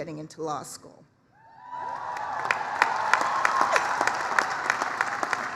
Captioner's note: applause, cheering